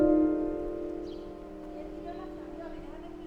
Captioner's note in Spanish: pájaros